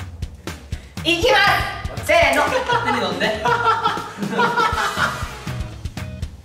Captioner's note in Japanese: 笑い声